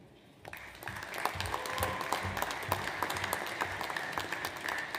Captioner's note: audience applauds